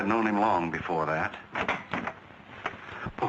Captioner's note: door clicking